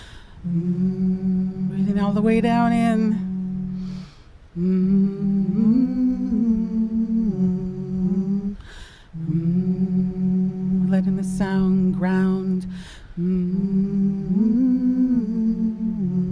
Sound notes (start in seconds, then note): 1.7 humming